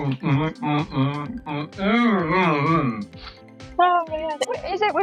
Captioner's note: grunting